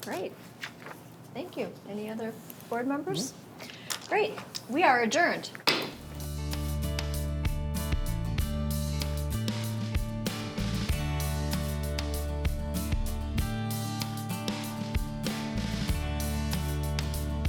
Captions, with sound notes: - Great, thank you. Any other board members? Great, we are adjourned. (gavel thuds) (bright upbeat music)